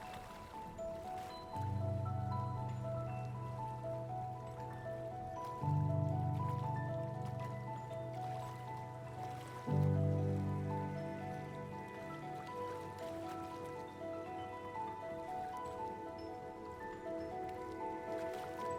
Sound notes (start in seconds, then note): 1.4 gentle music continues; 12.7 gentle music continues; 12.7 water flowing